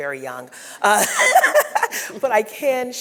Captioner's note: laughing